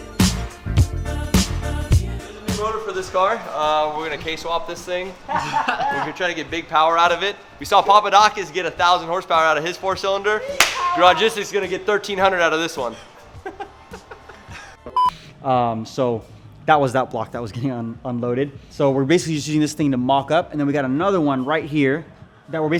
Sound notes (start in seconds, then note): 0.0 upbeat music; 5.2 laughing; 10.6 claps; 12.8 laughing; 14.9 beep